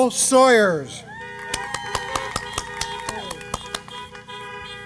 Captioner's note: applause